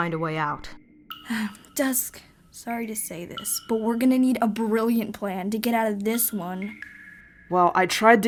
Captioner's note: Caroline sighs